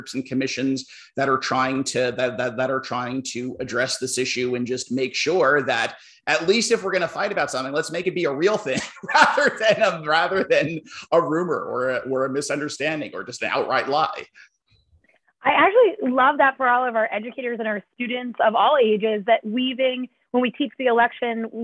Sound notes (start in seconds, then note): 8.7 laughter